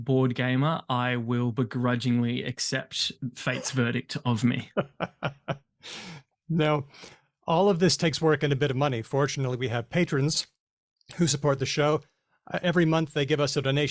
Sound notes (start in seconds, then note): 4.6 laughs